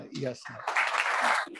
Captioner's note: applause